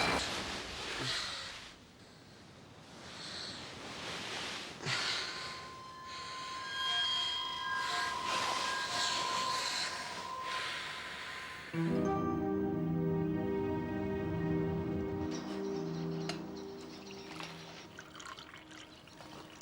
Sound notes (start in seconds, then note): 2.0 erratic breathing; 15.4 birds chirping